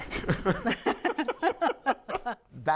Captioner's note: laughs